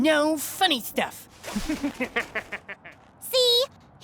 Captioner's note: mischievous laugh